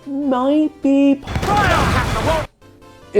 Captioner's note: cannon fire from a pirate ship